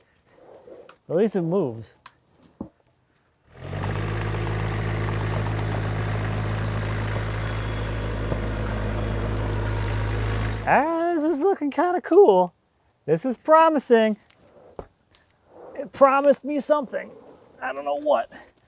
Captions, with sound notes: At least it moves. (tractor rumbles) Ah, this is looking of cool. This is promising. It promised me something, I don't know what.